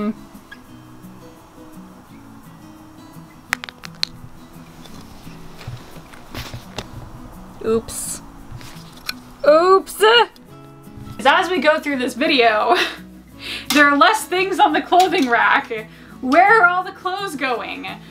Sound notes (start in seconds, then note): 0.2 cheerful guitar music; 3.1 clothes rustling; 3.4 heel cap clattering; 12.8 laughs